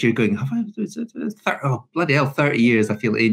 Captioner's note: murmurs